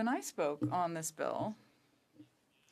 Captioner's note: speaking French